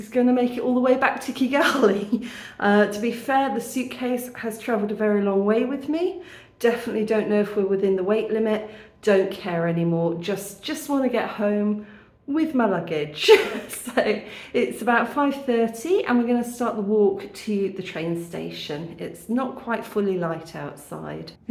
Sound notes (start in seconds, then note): 13.3 laughing